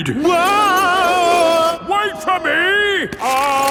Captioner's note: yelling